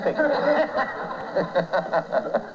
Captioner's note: laughter